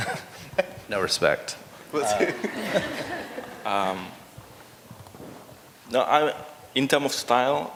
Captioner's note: laughter; laughter